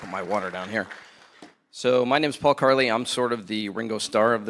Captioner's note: applause